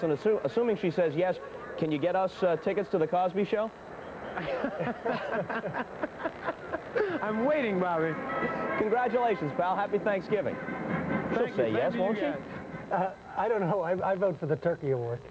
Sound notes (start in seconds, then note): 4.3 laughing